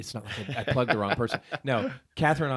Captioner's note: laughing